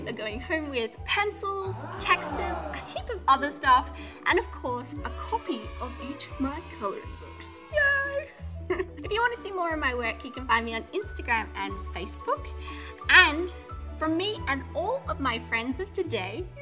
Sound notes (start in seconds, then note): 1.6 crowd aahing; 5.0 children cheering